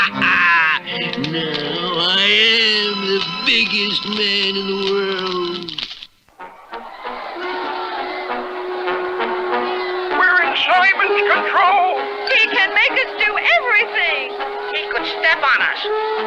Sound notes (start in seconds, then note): 6.1 crowd Roars